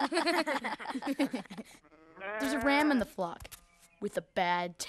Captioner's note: chuckling